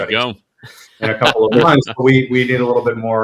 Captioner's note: laughs